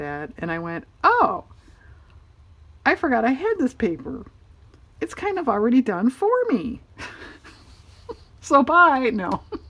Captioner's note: laughs